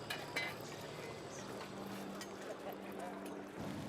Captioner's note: fire crackling